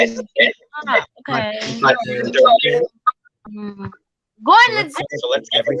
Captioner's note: feedback and voices echoing